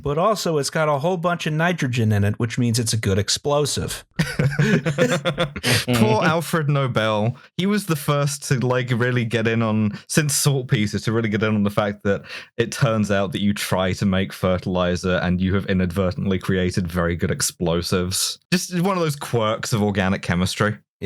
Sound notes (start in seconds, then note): 4.2 laughter